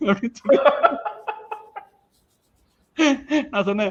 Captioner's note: laughs